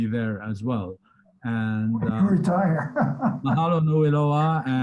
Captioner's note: laughter